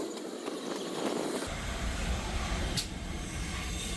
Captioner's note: sound of steam train passing